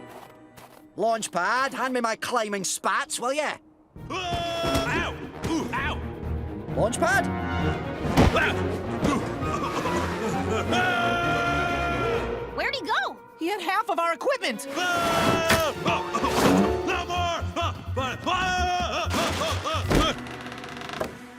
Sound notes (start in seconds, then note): 9.0 grunting, screaming; 14.8 screams; 17.1 gibbers, screams